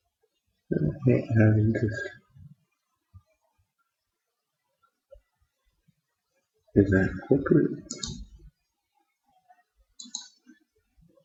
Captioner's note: mumbling to self